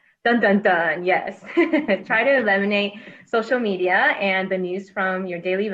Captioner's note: laughs